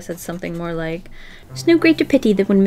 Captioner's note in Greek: Βρετανική προφορά